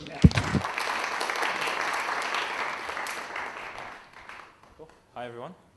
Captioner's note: applause